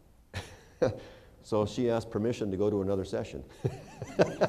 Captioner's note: laughter